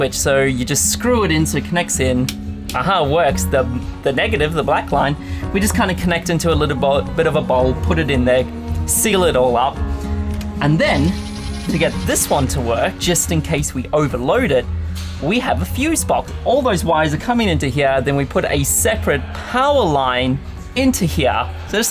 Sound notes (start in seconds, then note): 2.2 light switch clicking; 10.9 drilling